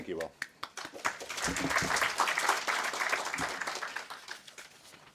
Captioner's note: audience clapping